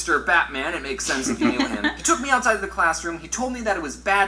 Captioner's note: both laugh